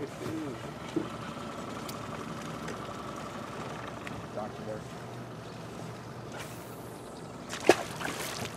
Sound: boat engine idling; fish splashing

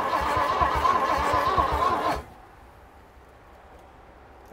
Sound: engine revving

